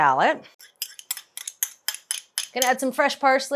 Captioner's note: spoon clinking